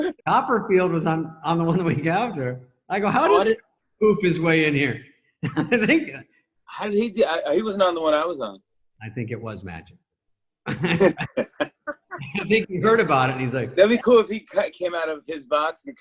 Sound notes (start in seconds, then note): 5.6 laughs; 10.6 laughter